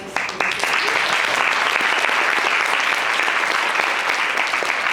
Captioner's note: audience applauds